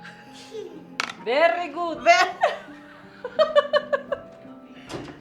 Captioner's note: laughs